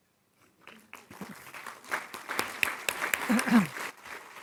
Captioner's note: audience applauds